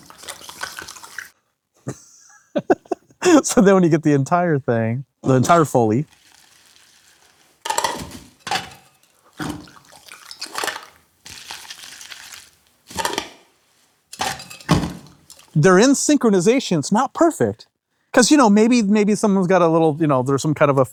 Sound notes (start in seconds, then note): 0.0 wet scraping; 1.8 laughs; 6.0 swab and goop swishing; 7.6 medical tools clacking; 9.4 wet scraping; 11.2 swab and goop swishing; 14.1 medical tools clacking